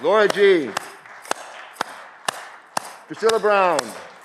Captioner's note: audience clapping